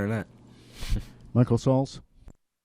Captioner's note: chuckles